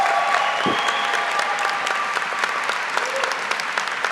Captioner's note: cheers and applause